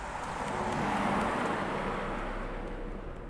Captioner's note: car rumbles